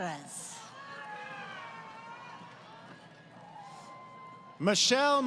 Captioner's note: crowd Cheering